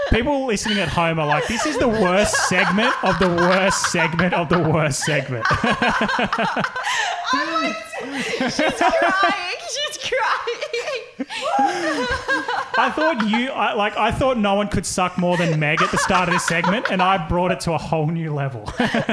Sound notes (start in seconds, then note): 5.6 laughing; 11.6 laughing